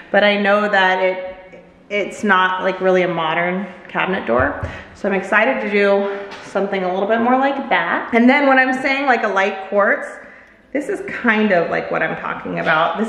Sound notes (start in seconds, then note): none